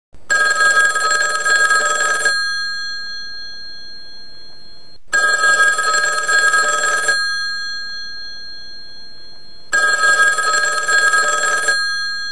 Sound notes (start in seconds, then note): 8.6 ring bell